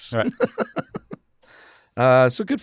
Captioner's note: laughs